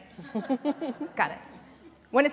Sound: laughter

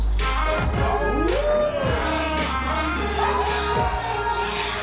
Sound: upbeat music; men cheering

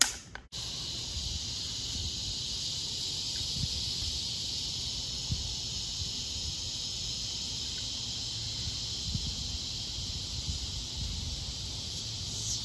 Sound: cicadas

